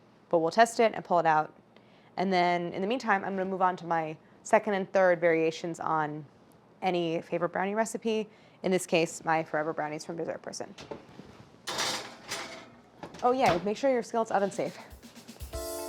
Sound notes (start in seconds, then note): 11.6 skillet clangs; 14.4 upbeat music